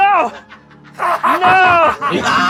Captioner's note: evil cackling; cackling